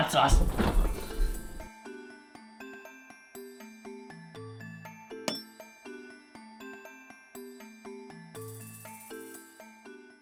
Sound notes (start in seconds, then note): 0.0 fridge opening; 5.2 hammer hit